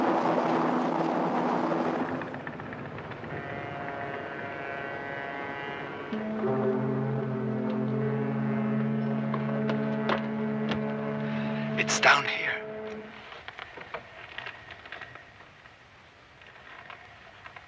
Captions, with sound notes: (helicopter continues whirring) (horns honk) It's down here. (ropes creaking)